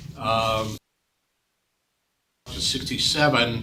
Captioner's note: audio cuts